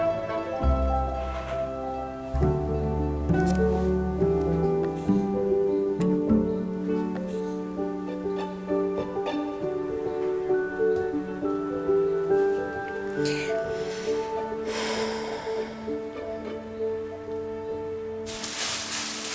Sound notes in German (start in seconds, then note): 14.6 Seufzen; 18.2 Rascheln